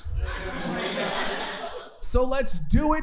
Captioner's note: audience laughing